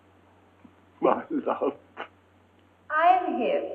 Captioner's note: sobbing